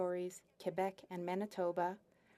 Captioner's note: speaking French